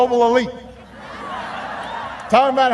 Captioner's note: laughter